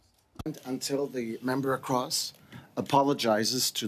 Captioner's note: speaking French